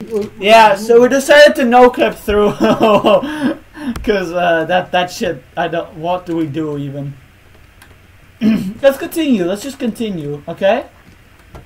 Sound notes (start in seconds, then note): 2.3 laughing; 8.4 clears throat